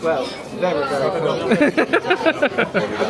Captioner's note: laughing